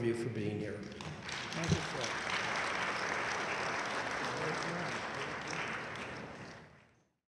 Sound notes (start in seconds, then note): 0.9 audience applauds loudly